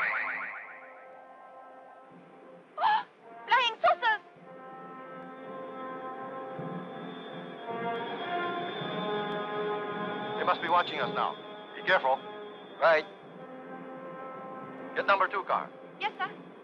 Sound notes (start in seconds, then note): 3.1 gasps; 6.1 suspenseful orchestral music